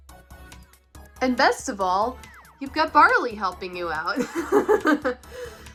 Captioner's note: laughs